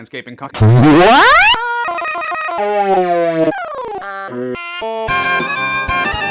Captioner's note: distorted sounds varying in pitch; distorted, rising in pitch